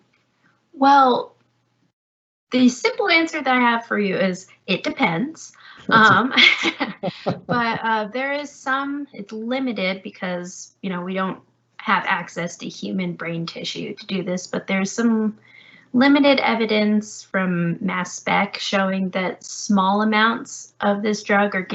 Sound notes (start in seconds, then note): 5.8 laughing